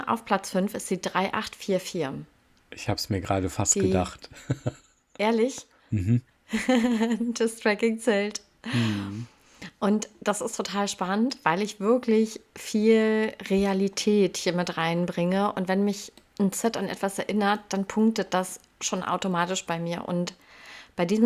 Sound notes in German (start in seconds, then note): 4.3 gelächter; 8.7 japst